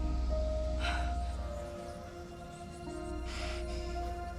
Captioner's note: voices whispering